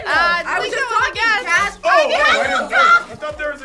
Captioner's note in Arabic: الجميع يصرخون